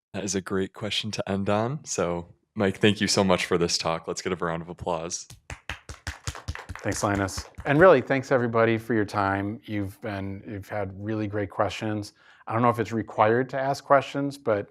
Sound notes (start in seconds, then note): 5.3 applause